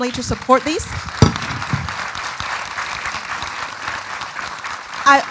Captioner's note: audience applauding